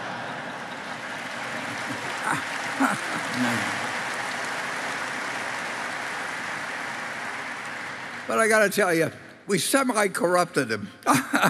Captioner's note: Applause; 掌聲